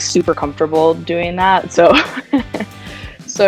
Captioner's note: laughter